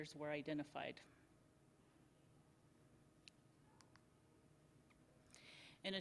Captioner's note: silence